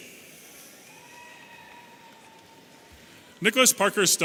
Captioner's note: audience cheering